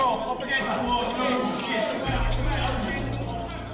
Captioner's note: men yelling